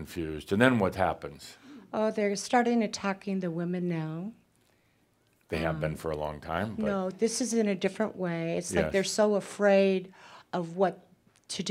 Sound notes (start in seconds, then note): none